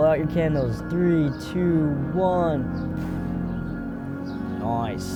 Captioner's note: exhales